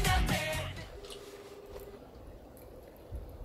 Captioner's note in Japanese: 電話の呼び出し音